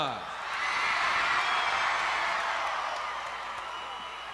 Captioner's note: crowd cheers